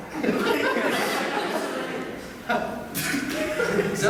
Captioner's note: shouts offscreen